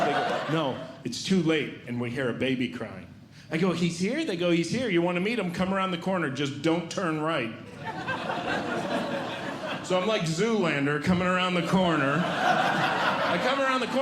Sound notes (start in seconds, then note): 7.7 audience Laughing; 11.8 audience Laughing